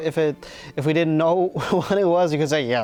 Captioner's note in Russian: хихикает